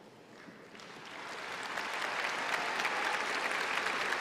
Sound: applause

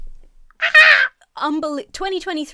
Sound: screams

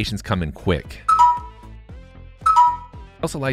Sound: app dinging

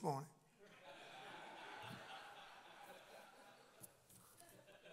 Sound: crowd laughs

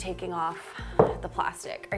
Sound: item dropping

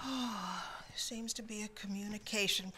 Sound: sighs

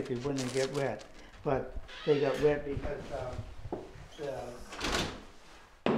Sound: screen door opens

